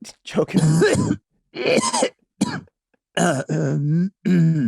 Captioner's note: Rob laughing amusingly; Glenn coughing loudly